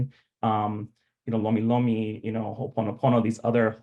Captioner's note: speaking Hawaiian